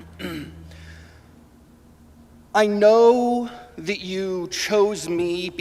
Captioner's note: laughing